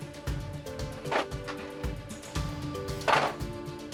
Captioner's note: objects clattering